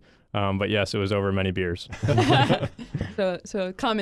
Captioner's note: all laugh